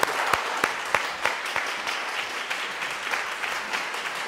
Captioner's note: audience applauds